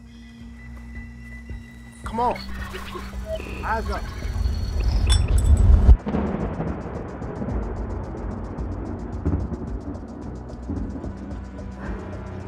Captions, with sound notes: Come on! Eyes up! [thunder rumbling]